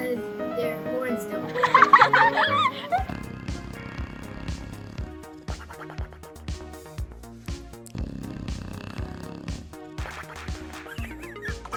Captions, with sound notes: Because their horns don't work. (people laugh) (dog snoring)